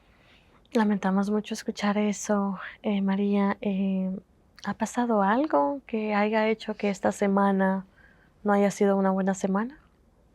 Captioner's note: Spanish